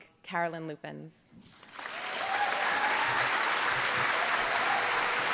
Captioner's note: applause